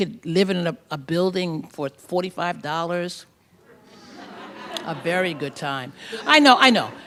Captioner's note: laughter